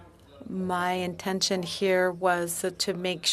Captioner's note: speaking French